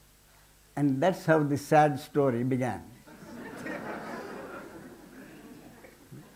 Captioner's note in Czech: smích